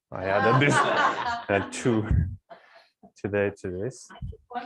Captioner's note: laughter